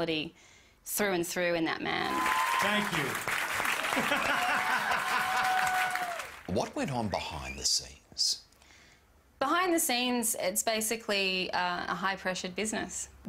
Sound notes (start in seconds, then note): 4.0 laughing devilishly